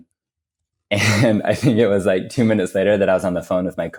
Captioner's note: laughs